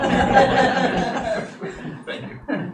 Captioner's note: audience laughing